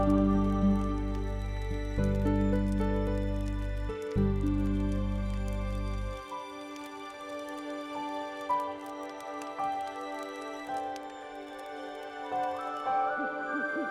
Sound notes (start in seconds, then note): 0.8 fire continues crackling; 0.8 gentle music continues; 8.9 fire continues crackling; 8.9 gentle music continues; 13.7 owl hooting